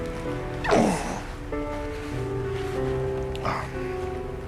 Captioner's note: Liberty groans